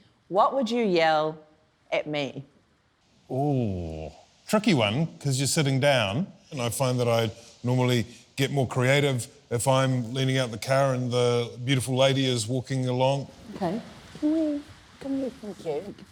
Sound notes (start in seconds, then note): none